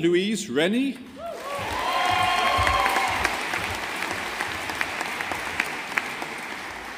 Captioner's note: audience applauding